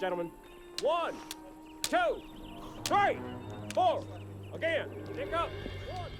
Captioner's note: sticks clacking